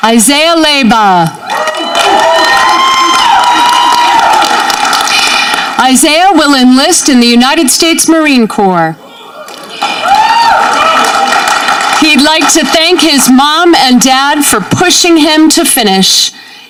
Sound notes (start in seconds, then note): 1.4 audience cheering; 9.2 audience cheering